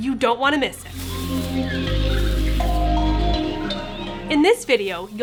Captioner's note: leaves rustling; percussive music